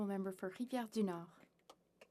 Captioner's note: speaking French